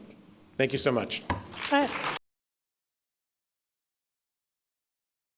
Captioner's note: audience applauding